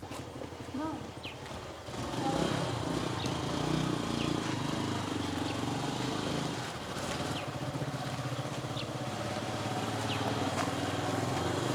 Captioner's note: Vrombissement d’une moto